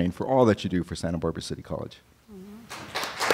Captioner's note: applause